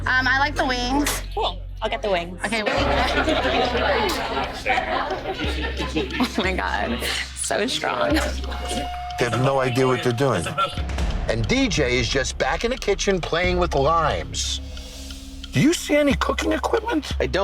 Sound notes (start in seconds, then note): 3.6 bar chatter; 8.7 dramatic instrumental music